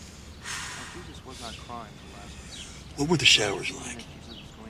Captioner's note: exhales sharply